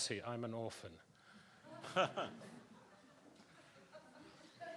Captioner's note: people laughing